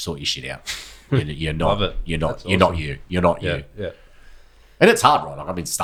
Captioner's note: laughs